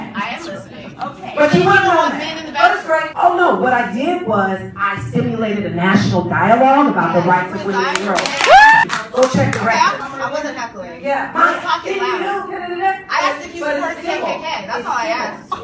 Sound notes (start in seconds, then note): 8.4 cheers from audience; 11.2 imitates heckles